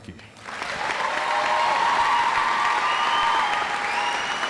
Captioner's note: audience applauds